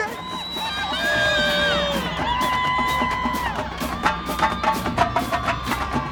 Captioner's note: crowd cheering; percussive music